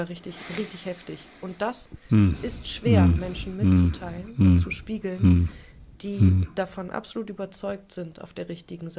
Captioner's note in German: räuspern